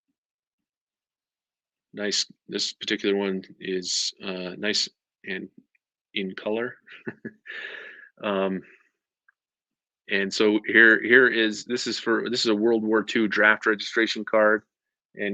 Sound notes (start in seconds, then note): 6.8 chuckles